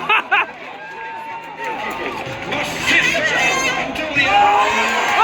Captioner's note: laughter/applause; rising cheers and laughter